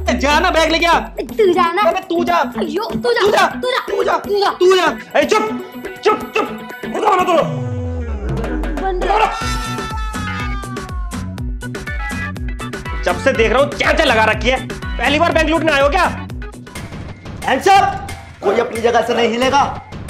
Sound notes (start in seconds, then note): 1.4 quarreling